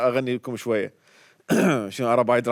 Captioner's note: clears throat